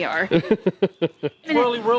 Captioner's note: laughing